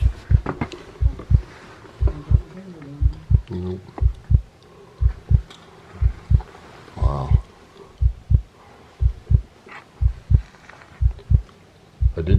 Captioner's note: wind